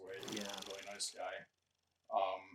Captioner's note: film reel clicking